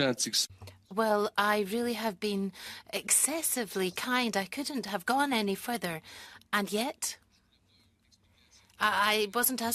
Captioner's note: speaking French